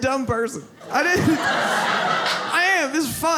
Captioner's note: audience laughs